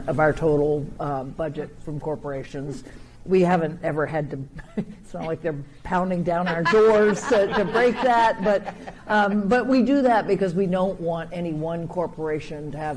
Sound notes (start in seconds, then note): 4.4 chuckles; 6.4 laughing